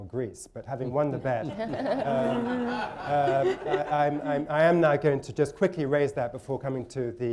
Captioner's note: laughter